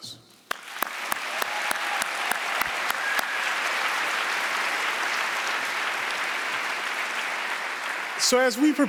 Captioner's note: applause